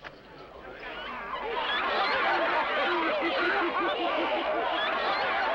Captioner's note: laughter and happy chatter